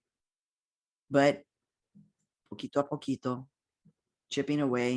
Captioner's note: speaking in foreign language